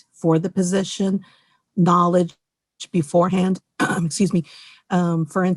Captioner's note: clears throat